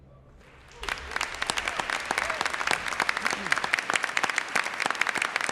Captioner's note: audience applauds